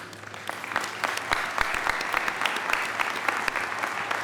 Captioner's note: audience applauding